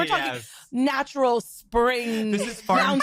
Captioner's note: laughs